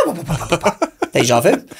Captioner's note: laughs; makes dog breathing noises